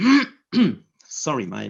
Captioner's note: clears throat